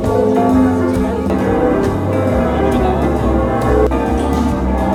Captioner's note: still ringing